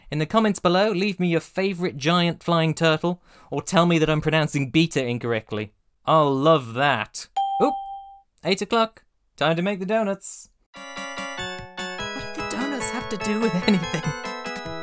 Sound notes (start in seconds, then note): 7.4 ding.wav; 10.8 outro music